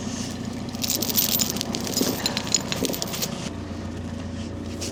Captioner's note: chain rattling